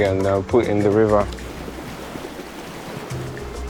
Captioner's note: river flowing